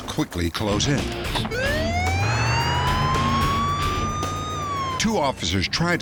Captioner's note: siren blaring